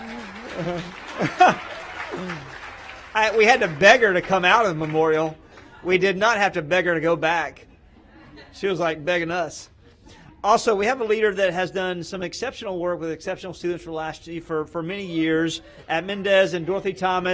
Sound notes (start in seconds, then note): 5.8 applause